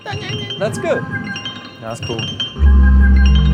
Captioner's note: ethereal electronic music; chirping